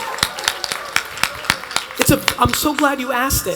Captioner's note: attendees applauding